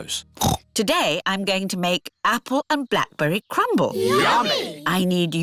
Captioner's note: snorts